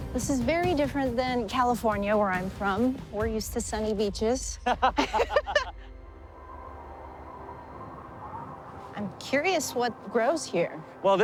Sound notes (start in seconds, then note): 4.6 laughing; 6.8 wind whistling